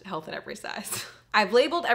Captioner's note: chuckling